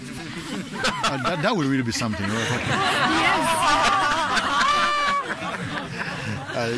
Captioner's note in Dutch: gelach